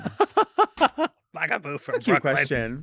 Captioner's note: laughs